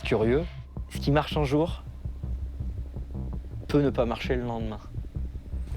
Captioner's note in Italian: parla in francese